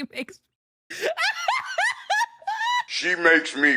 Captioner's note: laughter